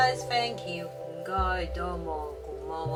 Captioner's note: Cantonese